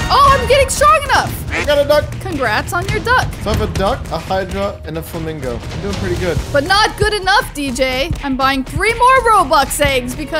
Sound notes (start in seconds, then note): 1.4 duck quacks